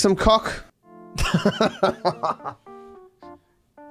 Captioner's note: laughs